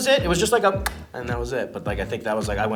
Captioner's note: smacks lips